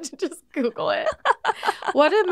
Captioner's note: laughing